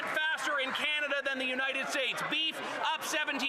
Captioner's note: some Applause